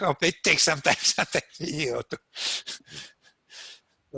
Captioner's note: laughs